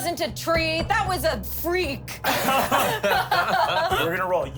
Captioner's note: everyone laughs